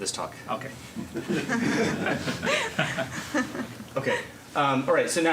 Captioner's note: laughter